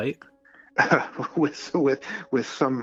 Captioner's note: chuckling